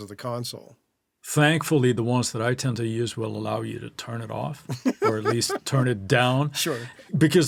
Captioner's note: laughing